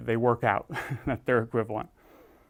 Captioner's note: laugh